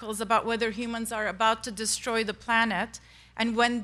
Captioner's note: none